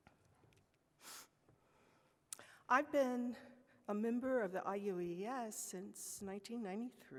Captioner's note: sniffs